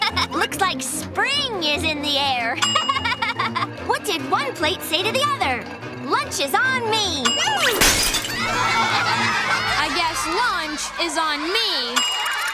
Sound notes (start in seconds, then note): 2.6 laughing; 7.6 plates shattering